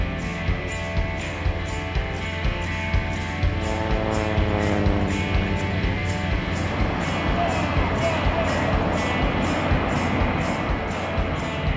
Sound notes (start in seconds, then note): 4.2 plane flying